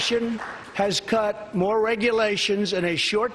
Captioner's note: applause